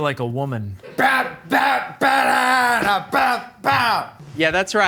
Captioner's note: vocalizing